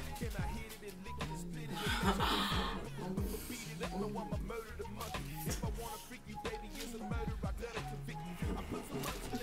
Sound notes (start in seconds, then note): 1.7 Crystal chuckles; 6.5 upbeat music